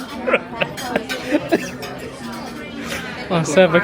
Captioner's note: laughing